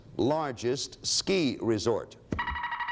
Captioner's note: alarms sounds